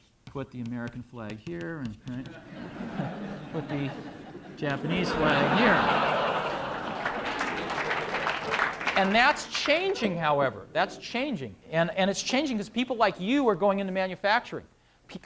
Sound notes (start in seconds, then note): 5.5 laughter; 7.0 applause